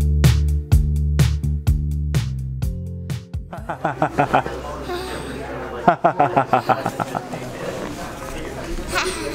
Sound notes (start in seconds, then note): 3.5 laughing; 5.0 laughs softly; 5.9 laughing